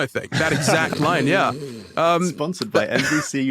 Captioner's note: snorts loudly